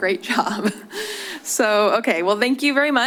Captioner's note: chuckling